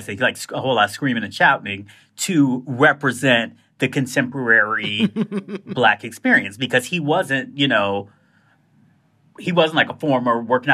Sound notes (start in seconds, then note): 4.8 laughter